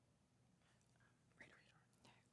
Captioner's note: participants whispering